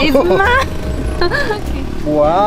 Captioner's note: both laugh